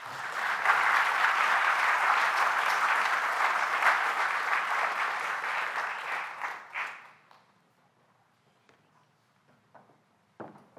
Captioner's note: applause